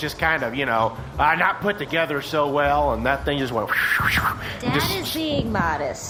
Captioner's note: whooshes